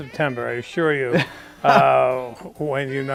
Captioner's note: laughs